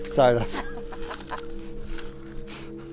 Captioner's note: chuckles